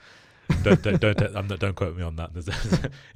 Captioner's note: laughs